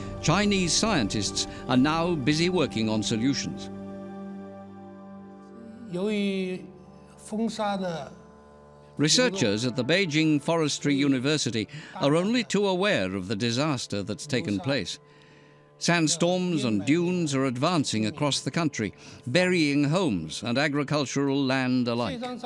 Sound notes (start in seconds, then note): 5.9 speaking Chinese